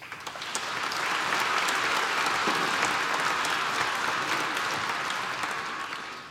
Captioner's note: applause